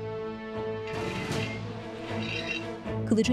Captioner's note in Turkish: Çelik sürtünme sesi